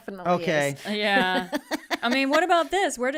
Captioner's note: laughing